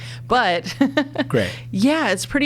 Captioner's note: laughs